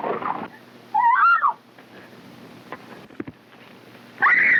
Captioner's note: Mary shrieking